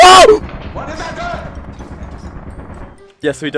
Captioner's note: rapid gunshots around the corner